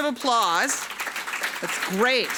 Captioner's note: and audience applauding